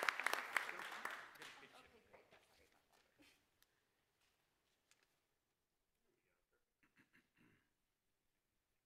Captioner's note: applause; laughter